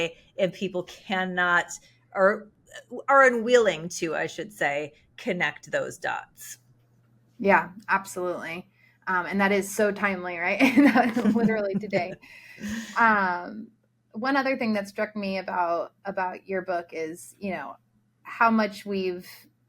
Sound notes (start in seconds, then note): 10.8 participants laughing in unison